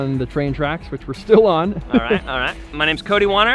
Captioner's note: laughs